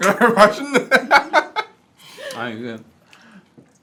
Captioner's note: can't stop laughing